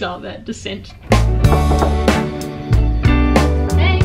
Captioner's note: door knocking; gentle music